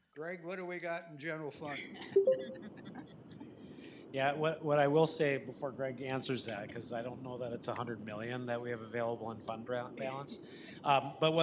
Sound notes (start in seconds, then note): 2.4 people laughing